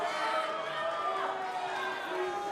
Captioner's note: cheers & boos